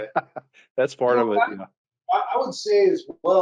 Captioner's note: laughs